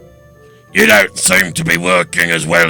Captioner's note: none